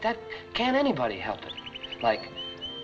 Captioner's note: birds twittering